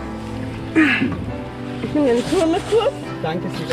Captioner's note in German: angestrengt